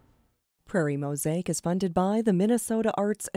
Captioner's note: voiceover